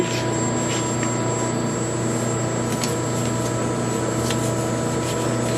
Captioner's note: paper rustling; machine whirring